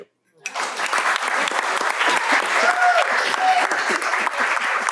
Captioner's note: applause